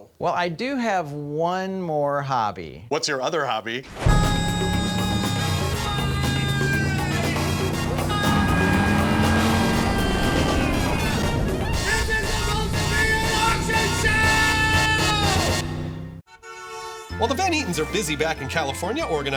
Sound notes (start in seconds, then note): 4.2 screaming; 4.2 upbeat music; 8.2 continues screaming